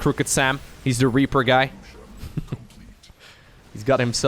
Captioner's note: chuckles